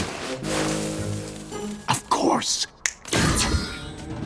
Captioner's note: fingers snap